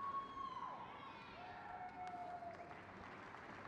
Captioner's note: crowd cheers